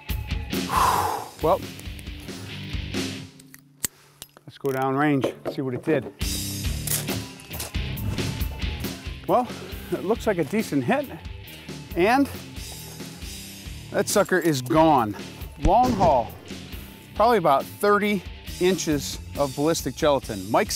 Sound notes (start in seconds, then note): 0.6 sigh